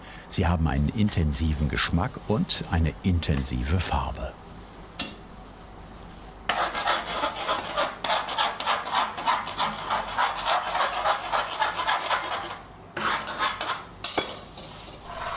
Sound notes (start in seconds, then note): 6.4 scratching sound